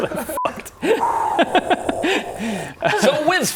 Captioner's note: wasted lizard taking a breath